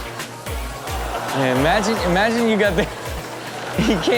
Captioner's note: laughs